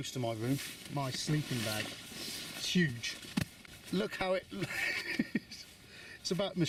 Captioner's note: laughs